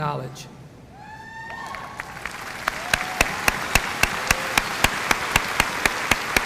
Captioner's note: audience cheering and applauding